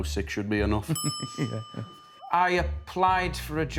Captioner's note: laughter